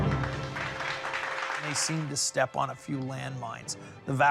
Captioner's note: dramatic music; audience applauds